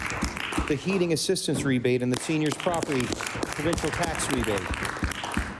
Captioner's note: applause